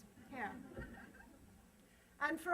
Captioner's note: laughter